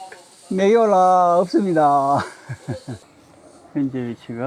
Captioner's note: laughs